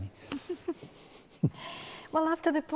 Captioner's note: laughing